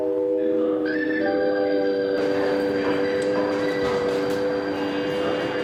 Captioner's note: adventurers murmuring